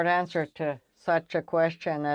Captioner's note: speaking French